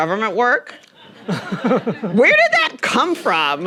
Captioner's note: everyone chuckling